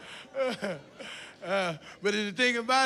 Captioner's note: laughs